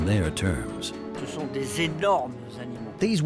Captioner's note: speaking French